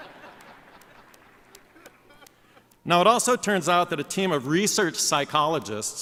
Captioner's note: laughter